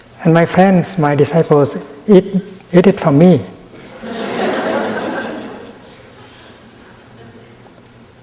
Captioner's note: laughter in the audience